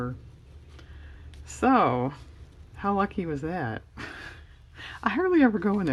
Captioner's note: laughs